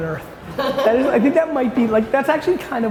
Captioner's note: laughter